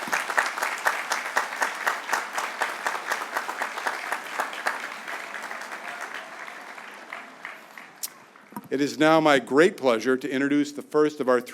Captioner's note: applause